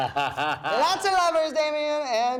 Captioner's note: laughs